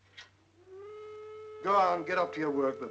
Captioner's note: whistle blows